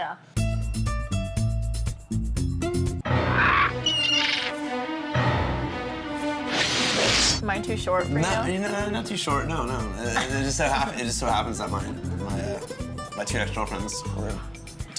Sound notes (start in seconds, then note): 2.8 menacing music; 3.3 bird squawks; 8.2 stammers